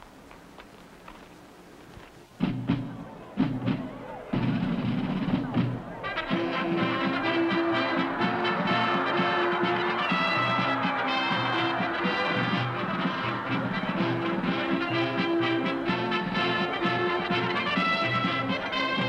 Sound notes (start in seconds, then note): 2.8 audience cheering; 2.8 upbeat music